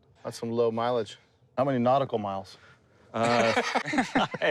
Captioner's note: laughter